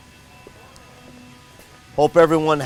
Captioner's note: machines whirring